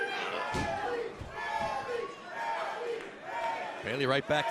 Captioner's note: crowd cheering